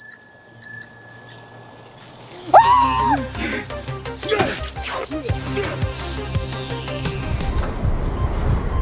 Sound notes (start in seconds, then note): 0.0 bell ringing; 2.5 cameraman screaming; 4.2 slasher slashing